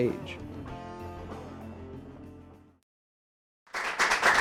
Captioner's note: applause